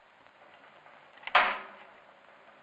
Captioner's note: click